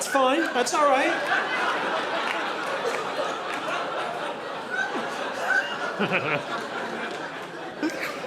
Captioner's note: audience laughing